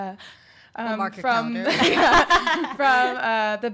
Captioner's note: laughs